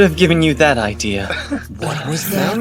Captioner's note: knowing chuckle